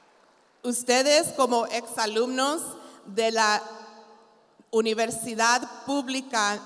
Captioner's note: continues speaking in Spanish